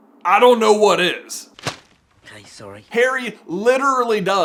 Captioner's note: thwap!